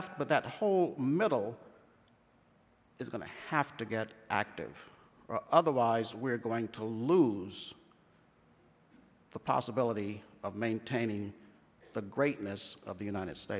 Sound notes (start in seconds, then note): none